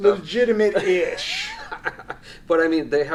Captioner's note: laughs